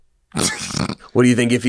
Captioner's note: snorts